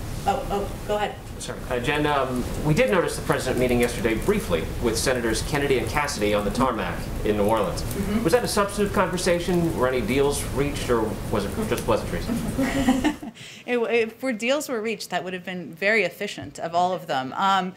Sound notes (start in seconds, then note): 12.2 laughs